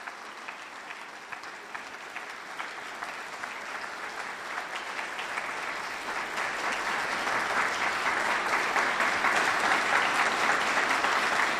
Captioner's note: audience applauds